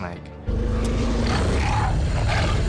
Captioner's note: basilisk growling